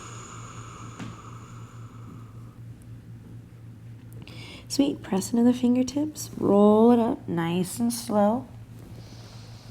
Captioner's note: breathing